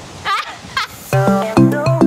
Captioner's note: laughs